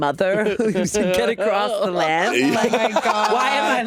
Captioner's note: all laughing